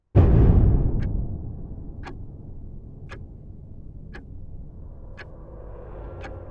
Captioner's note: ominous music; clock ticking